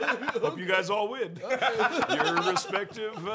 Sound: laughter

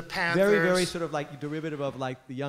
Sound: voiceover

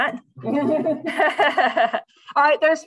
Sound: laughter

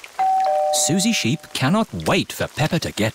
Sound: doorbell rings

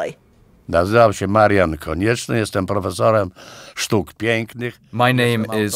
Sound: polish being spoken

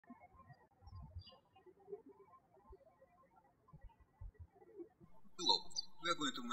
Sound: birds chirping

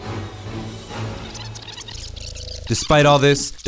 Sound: tape rewinding

